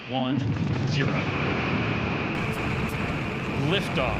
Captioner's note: space engine rumbling